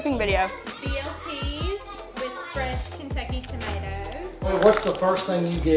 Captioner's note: murmurs